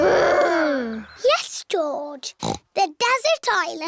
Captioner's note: snorts